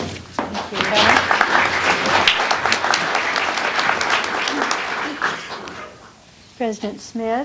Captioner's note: applause